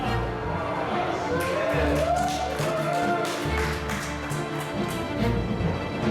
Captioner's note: cheers and applause